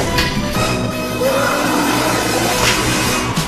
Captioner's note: Leech moth Rawring in fear